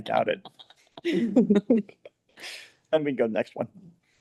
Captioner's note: people laughing